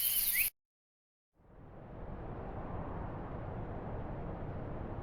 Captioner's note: wind whooshing